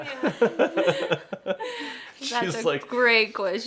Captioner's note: laughing continues